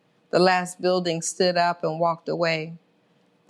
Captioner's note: none